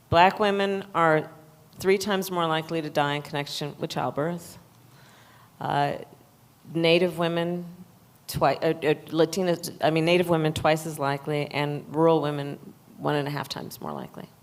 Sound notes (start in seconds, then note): none